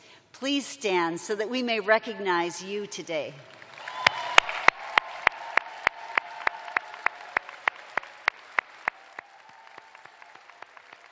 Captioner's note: cheers and applause